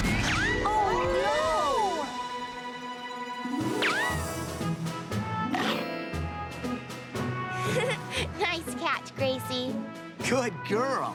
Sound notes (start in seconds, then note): 2.9 giggling